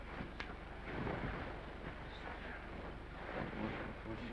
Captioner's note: bedsheets rustle